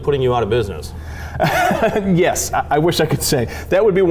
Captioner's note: laughs